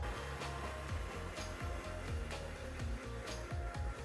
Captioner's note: camper buzzing